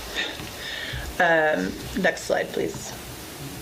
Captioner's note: laughs